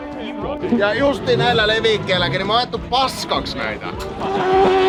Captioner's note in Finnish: moottorin pärinää